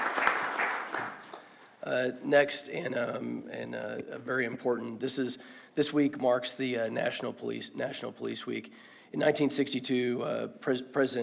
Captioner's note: applause